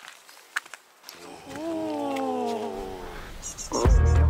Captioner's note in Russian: звуки восхищения